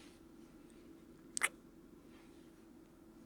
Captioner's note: kiss